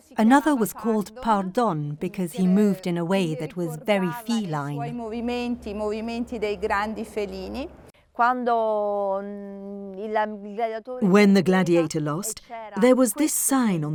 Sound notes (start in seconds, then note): 8.3 speaking in foreign language